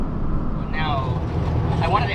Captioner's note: road Sound